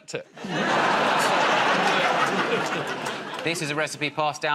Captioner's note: laughter